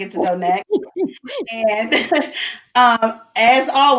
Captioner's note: laughs